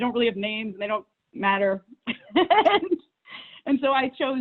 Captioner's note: laughs